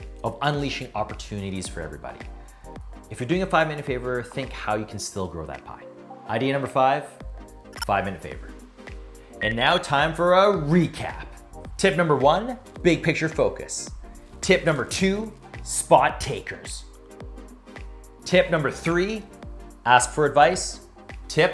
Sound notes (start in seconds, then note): 9.4 electronics chirping; 9.4 electronics beeping